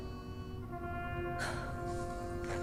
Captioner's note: sighs